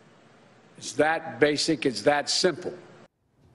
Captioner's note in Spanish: AUDIO EN INGLéS